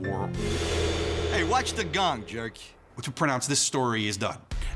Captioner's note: gong sounds